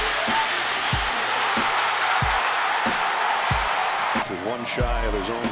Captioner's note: cheering